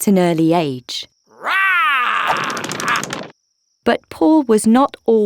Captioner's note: Paul roaring